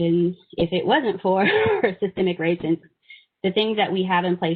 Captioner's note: giggling